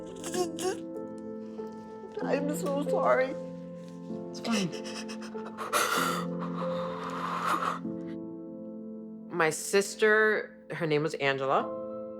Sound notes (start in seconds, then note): 4.4 sobbing and breathing heavily